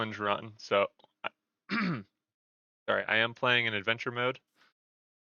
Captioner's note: coughs